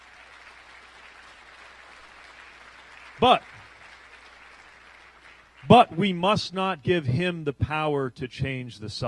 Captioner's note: applause